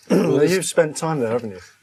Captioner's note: clears throat